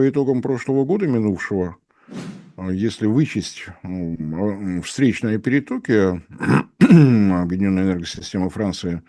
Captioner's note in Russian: кашель; откашливается